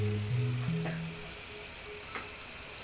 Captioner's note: faucet running, spitting